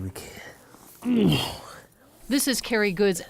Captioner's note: grunting